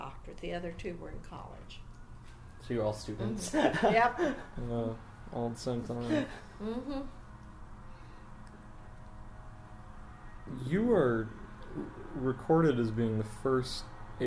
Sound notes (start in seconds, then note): 8.9 laughs